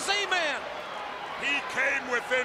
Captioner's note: crowd chatter